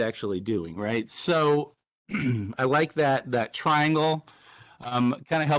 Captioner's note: clears throat